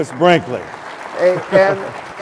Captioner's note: applause